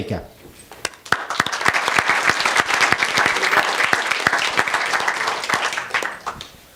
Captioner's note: applause